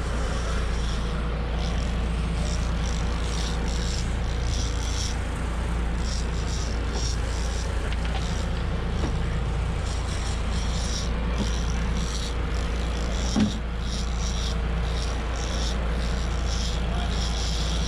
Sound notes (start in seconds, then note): 0.0 boat engine running; 3.7 reel cranking